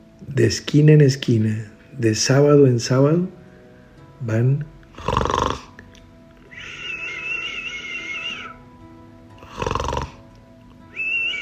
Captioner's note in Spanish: sonidos de ronquidos